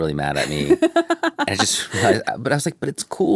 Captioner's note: laughs